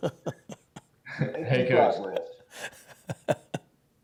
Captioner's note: laughs